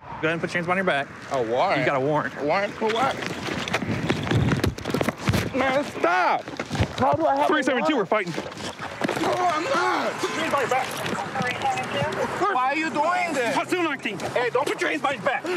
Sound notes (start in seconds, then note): 0.0 whoosh; 3.7 sound of struggle